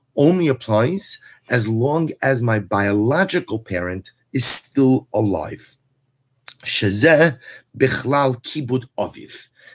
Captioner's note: Hebrew